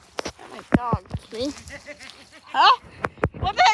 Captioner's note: menacing laughter